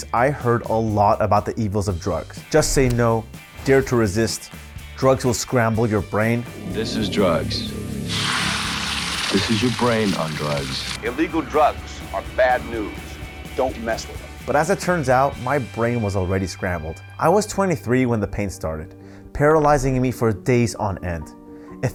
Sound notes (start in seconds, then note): 7.5 eggs sizzling; 7.8 ominous music